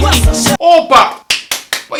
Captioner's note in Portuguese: Palmas